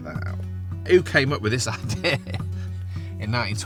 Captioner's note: laughs